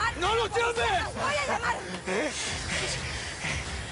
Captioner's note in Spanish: Todos jadean